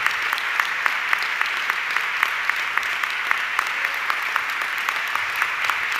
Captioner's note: audience clapping continues